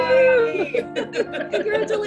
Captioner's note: laughter